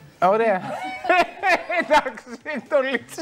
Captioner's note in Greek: γέλια